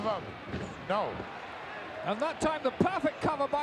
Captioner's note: referee pounding mat